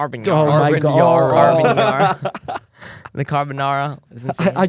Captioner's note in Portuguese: risos